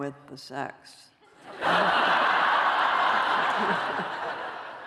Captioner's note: laughter